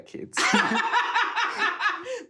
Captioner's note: laughs